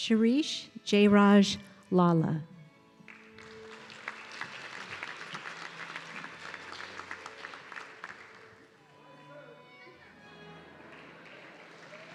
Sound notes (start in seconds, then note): 3.0 audience clapping